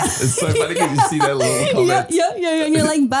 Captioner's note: laughing